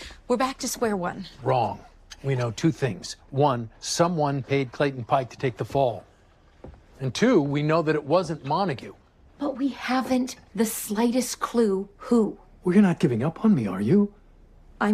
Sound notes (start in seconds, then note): none